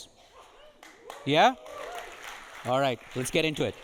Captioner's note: audience applauding